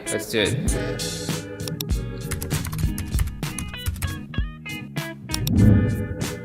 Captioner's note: upbeat music; keyboard clicking